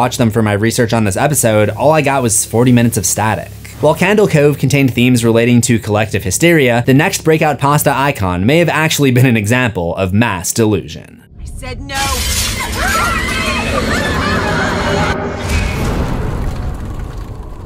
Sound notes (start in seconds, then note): 12.0 screaming; 14.8 impact